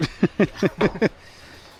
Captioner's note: laughing